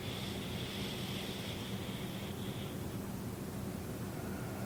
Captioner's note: breathing noisily